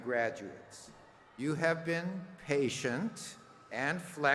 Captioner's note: cheers and applause